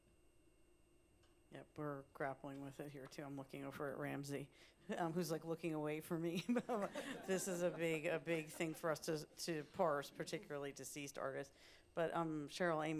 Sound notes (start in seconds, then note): 6.3 laughter